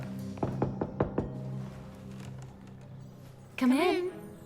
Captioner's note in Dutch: deur klopt